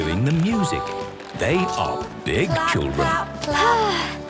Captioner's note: Belinda sighing